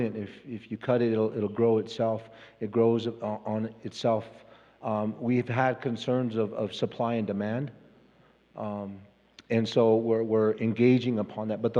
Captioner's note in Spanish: Expositor habla en inglés